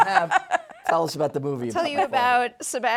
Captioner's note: laughs